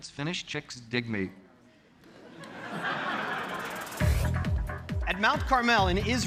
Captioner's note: audience laughing